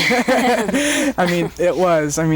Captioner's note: both laugh